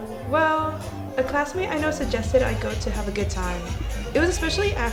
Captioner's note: party noises